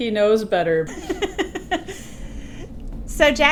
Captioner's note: woman laughing